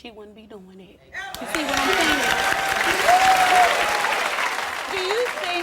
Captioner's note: applause and cheers